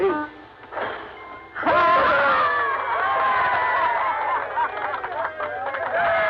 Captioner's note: all cheering and clapping